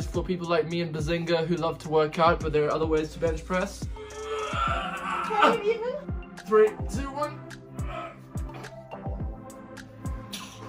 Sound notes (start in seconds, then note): 3.9 groans; 7.8 groans